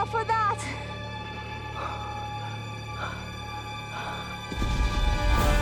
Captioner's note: panting